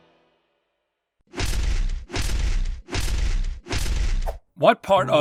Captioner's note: repeated slamming sounds